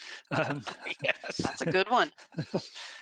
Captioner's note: laughing